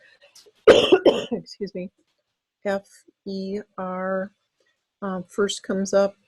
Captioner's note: coughs